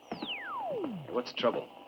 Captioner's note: radio whistling